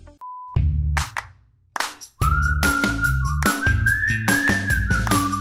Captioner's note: beep; upbeat music